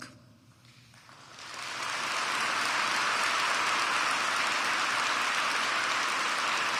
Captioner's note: applause